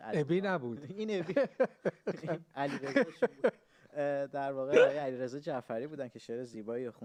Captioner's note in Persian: خنده